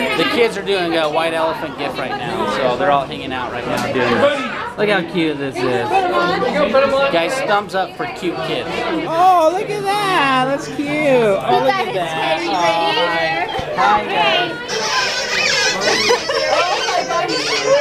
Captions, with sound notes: They kids are doing white elephant gifts right now, so they're all hanging out right now doing... Look how cute this is. Guys, thumbs up for cute kids. Aw, look at that, that's cute! Oh look at that. (squeaker toy)